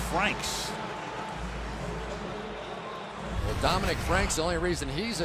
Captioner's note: pa announcement